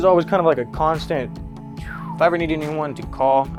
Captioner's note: imitates air whooshing